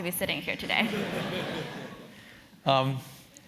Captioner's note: laugh